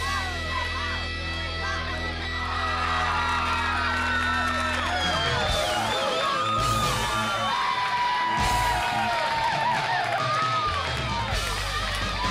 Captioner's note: crowd cheering